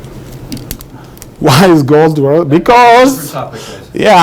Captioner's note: laughs